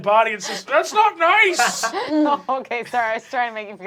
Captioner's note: laughing